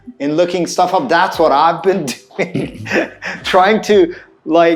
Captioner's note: laughing